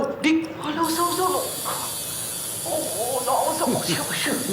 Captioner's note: buzzing; non-english speech